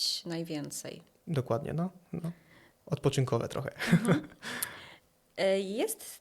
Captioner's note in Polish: śmiech